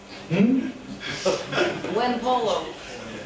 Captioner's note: audience chuckles